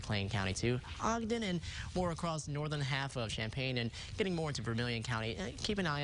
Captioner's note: winds